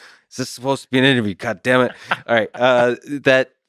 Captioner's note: Tim laughs